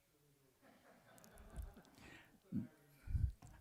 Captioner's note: laughter